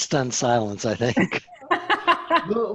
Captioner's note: laughter